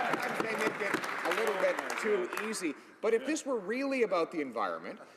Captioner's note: some Applause